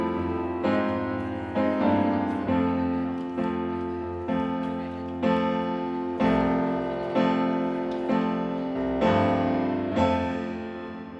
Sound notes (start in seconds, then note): 2.6 people chattering; 7.0 gentle bright music continues